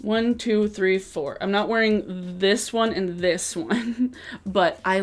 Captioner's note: chuckles